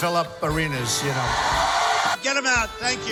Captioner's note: crowd cheering